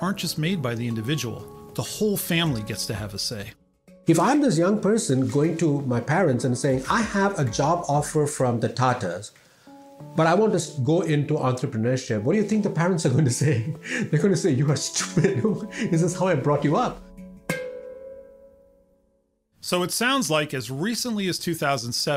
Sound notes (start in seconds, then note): 15.0 laugh